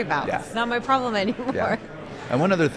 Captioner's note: chuckles